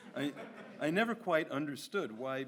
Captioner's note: audience laughs